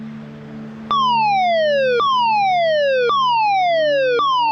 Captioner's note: upbeat music; siren wailing